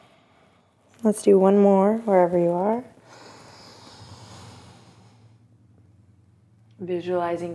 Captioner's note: deep breath